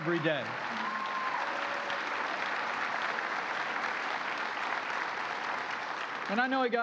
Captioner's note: applause